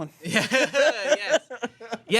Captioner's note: everyone laughs